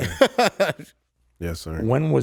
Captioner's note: laughs